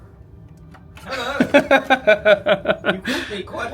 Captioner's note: laughs